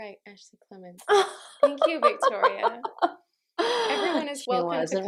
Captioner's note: raucous laughter from the peanut gallery